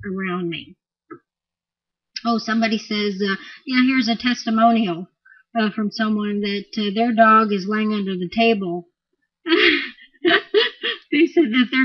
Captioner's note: laughing